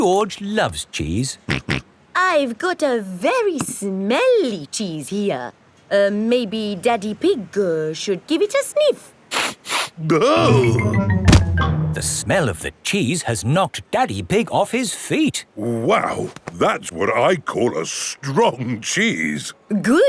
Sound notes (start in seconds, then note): 1.5 snorts; 9.5 sniffs and groans